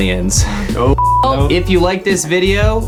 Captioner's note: beeps